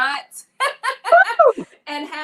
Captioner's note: laughs